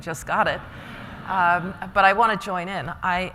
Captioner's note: laughter